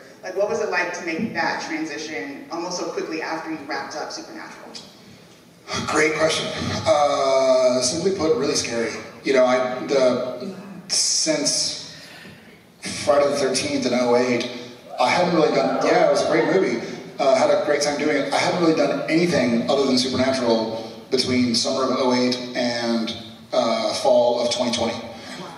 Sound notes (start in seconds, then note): 14.9 cheers